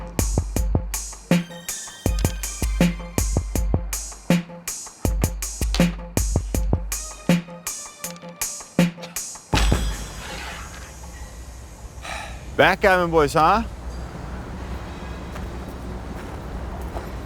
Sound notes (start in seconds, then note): 1.7 dice clinking; 8.8 calm music ends